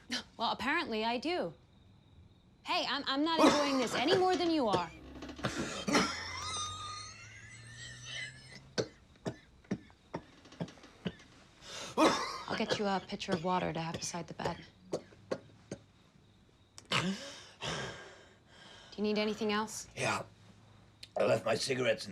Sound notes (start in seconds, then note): 5.4 wheezing and Coughing